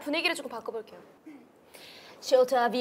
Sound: ehem

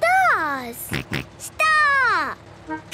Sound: snort

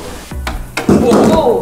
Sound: thudding

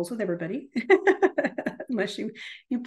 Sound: laughs

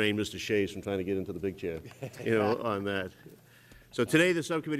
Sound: laughter

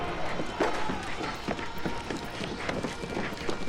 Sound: footsteps

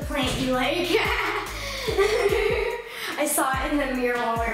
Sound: laughs

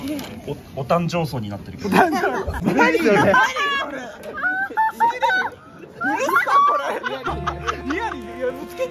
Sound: laughing

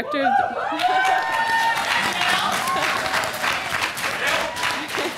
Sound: applause

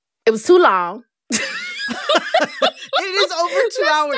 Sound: laughter

